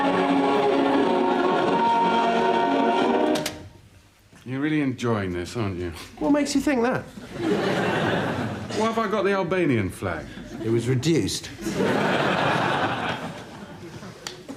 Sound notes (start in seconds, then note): 3.3 cassette player clicks; 7.2 audience laughs; 11.5 audience laughs